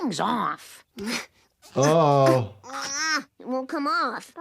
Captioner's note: Bart grunting